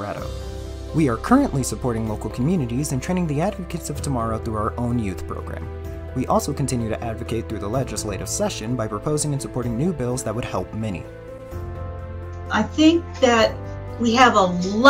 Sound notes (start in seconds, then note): none